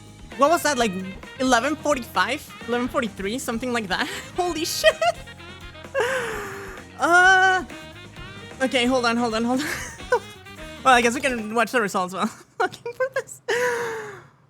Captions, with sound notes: What was that, like, 11:45? 11:43? Something like that? Holy shit! [ INHALES ] [ YELLS ] Okay, hold on, hold on, hold on [ LAUGHTER ] Well, I guess we can watch the results while I'm looking for this.